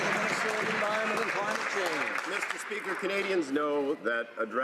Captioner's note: some Applause